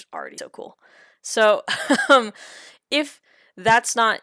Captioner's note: chuckles